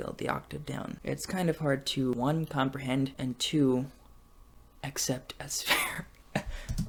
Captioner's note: laughs